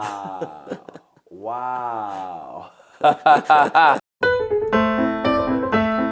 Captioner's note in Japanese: 笑い